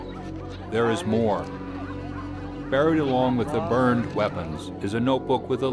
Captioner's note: voiceover